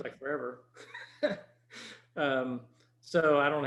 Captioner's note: chuckles